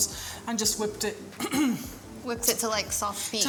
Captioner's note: coughs